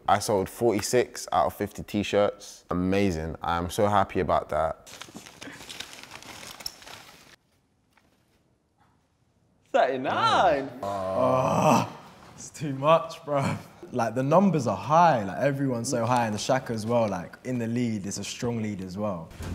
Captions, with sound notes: I sold 46 out of 50 tee-shirts. Amazing. I'm so happy about that. (paper rustling) - 39! - Ah, it's too much, bro. The numbers are high. Everyone's so high, and the Shak is well in the lead. It's a strong lead as well.